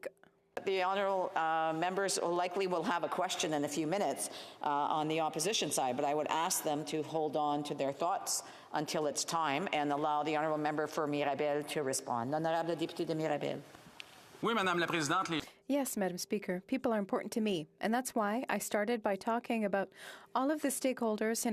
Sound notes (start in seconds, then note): 16.2 speaking French